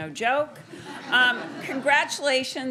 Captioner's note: students laughing